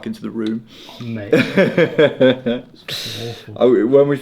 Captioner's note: laughing